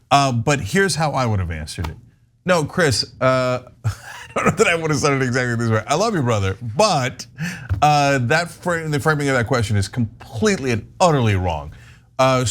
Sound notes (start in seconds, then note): 3.8 laugh